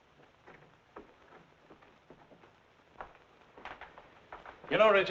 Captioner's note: door rattling